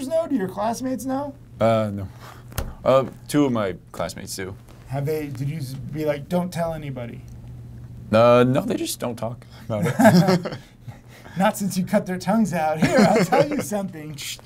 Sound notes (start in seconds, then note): 10.0 laughter